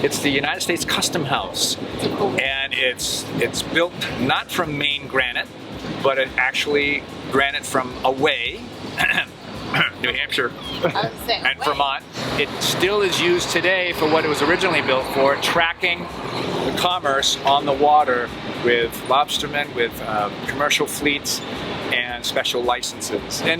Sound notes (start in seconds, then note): 9.7 clears throat